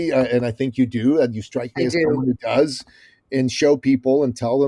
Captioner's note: laughing